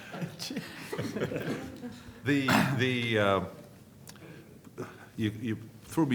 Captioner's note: laughter